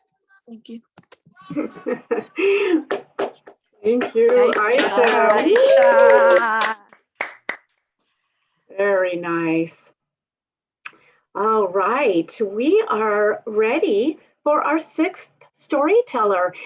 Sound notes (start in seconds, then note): 4.0 applause